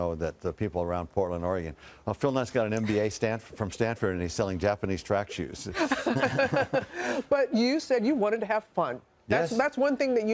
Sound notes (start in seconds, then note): 5.7 both laughing